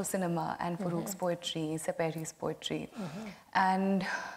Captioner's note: speaks foreign language